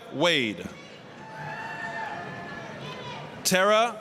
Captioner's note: applause, cheering